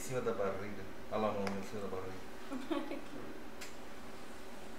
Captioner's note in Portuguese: risos da paciente